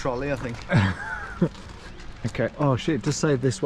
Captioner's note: laughs